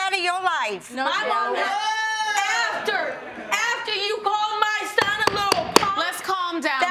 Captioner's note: gavel pounding